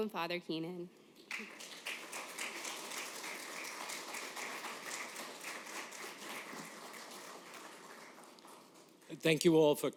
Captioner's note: applause